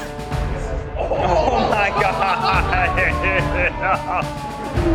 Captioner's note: laughs